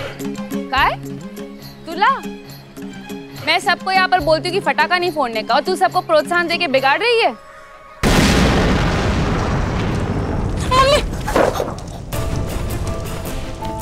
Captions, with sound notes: What? You! I tell everyone, not to do this. You are encouraging everyone to do this. [explosion] [dramatic music]